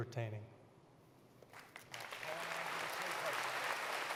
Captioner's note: applause